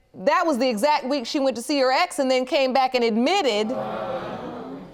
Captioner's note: audience gasps